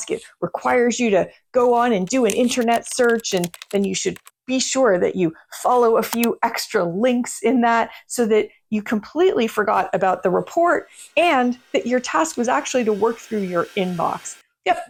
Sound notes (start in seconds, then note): 1.9 keyboard clacks; 6.0 mouse clicks